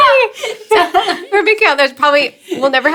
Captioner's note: laughs